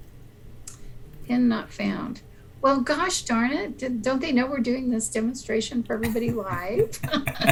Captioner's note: giggles